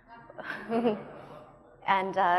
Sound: audience laughing

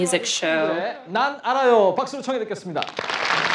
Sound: host speaking in Korean; audience applauding

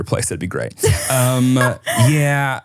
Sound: laughs

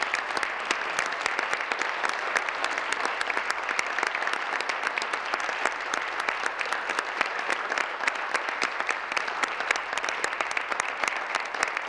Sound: applause

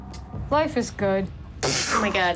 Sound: scoffs

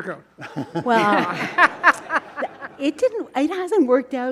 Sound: all laughing

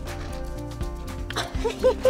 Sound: laughing

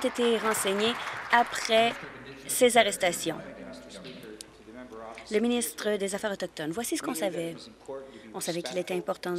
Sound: applause

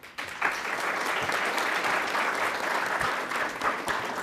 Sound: attendees applauding

